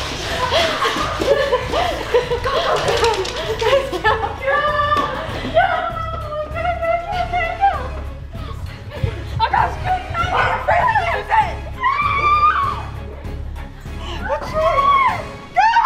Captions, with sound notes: - Go, go, go! - Guys go. - Go, go, go, go, go. (all screaming)